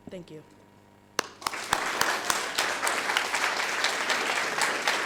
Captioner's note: audience applauding